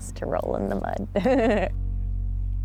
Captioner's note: laughs